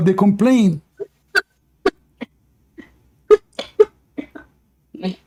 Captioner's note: Ketawa